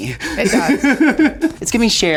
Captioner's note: Sasha laughing